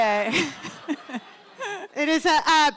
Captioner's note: laughter